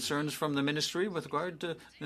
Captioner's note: speaking French